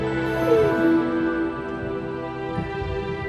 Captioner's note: somber music; cries